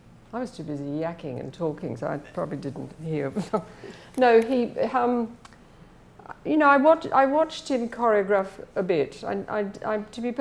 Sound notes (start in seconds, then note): 3.3 laughs